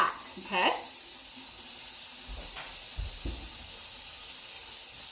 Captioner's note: water gushing